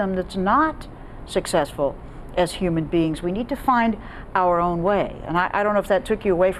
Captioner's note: none